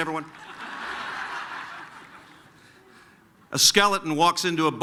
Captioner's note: laughter